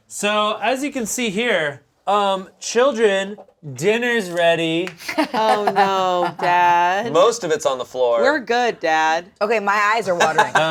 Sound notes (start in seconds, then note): 5.1 laughing